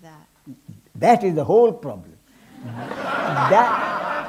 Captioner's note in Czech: smích